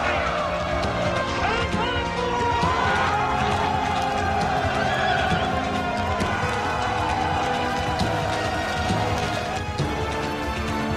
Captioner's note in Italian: Applauso